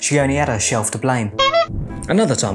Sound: horn honking

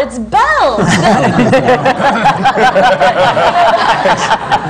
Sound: laughter

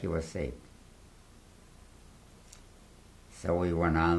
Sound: pauses for 3 seconds

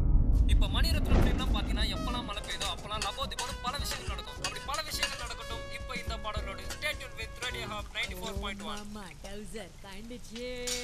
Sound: radio playing

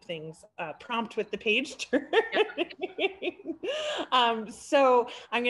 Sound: laughing

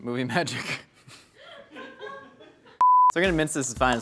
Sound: woman laughs

